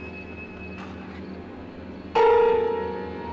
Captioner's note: none